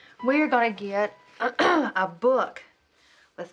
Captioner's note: clears throat